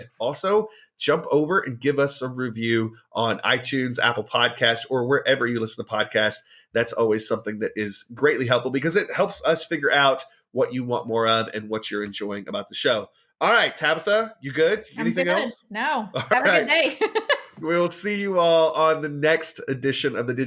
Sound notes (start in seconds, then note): 16.1 laughs